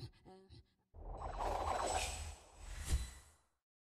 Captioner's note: whooshing